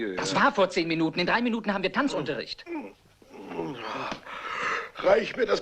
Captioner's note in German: grunzt